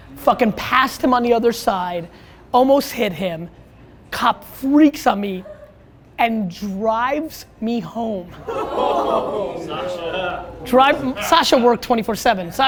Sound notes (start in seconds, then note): 8.3 crowd groans